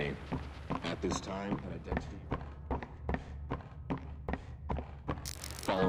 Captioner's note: footsteps